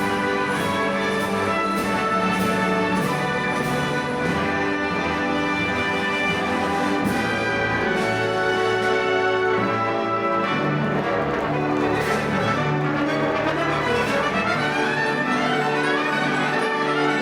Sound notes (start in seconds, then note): 0.0 orchestral music; 3.2 audience applauding